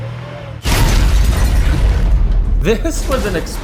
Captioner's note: explosion blasting